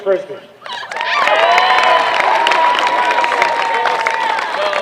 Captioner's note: applause